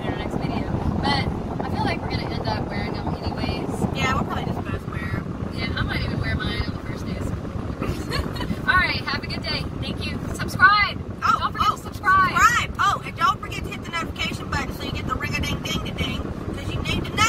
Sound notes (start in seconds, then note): 7.8 loud Laughs